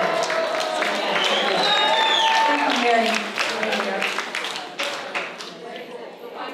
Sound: applause

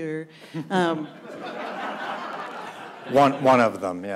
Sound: audience laughs

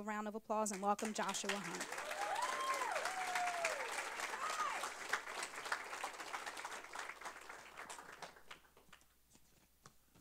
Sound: applause

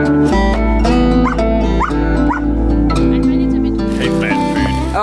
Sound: Vilk barking

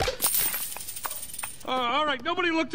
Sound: coins jiggle

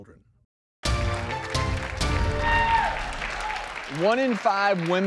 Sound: audience applause

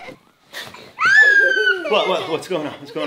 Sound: laughing; kids scream

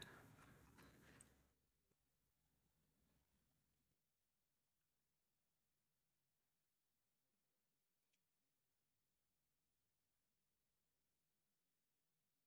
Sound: silence

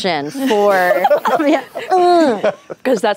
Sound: laughter

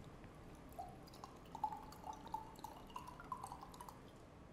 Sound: liquid pouring

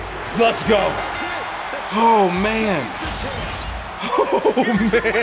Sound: laugh

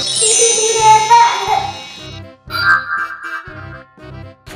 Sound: young child laughing

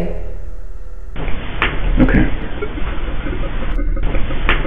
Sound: static hissing

